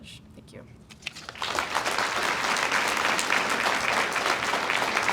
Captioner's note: audience applauds